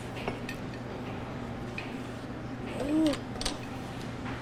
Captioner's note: objects clattering